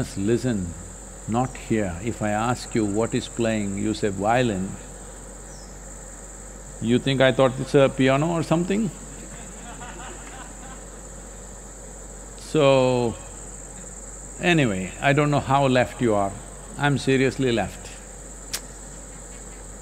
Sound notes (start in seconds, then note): 9.1 laughter